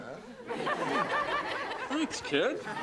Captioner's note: audience laughs